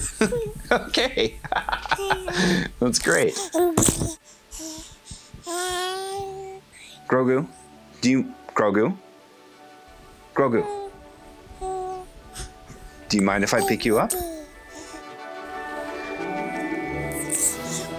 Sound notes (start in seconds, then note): 4.5 happy sounds